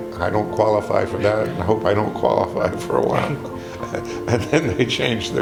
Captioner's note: laughing